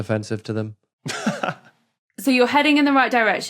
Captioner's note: laughs softly